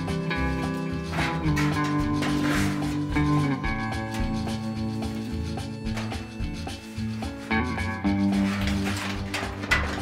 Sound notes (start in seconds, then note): 0.0 metal sheet clanging; 4.7 bouncy guitar music continues